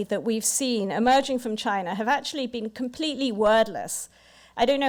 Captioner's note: none